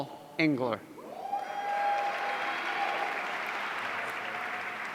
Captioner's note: audience cheering